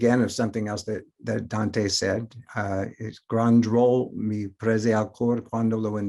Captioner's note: foreign language